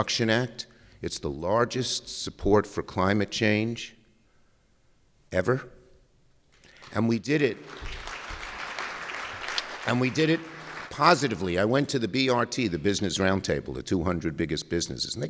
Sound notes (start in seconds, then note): 9.9 applause